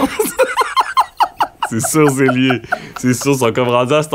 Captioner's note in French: rires